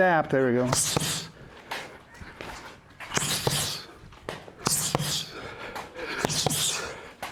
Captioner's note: breathing